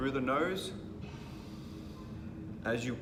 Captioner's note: inhaling